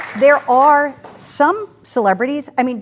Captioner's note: applause